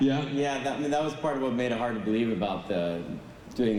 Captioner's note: none